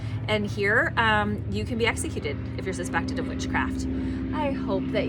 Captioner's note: airplane flying overhead